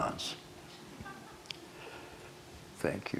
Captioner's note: single laugh